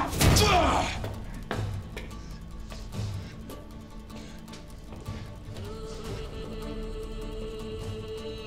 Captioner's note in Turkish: Müzik - Aksiyon; Nefes sesleri